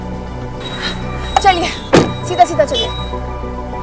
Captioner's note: Car door closes